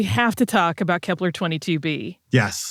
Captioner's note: laughs